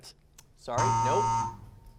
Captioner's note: buzzer sound